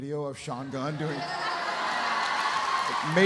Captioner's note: audience laughs